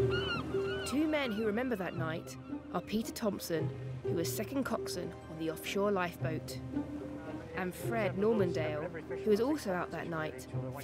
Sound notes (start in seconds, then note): 0.0 seagulls squawking